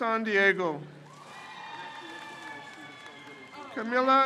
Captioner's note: crowd cheers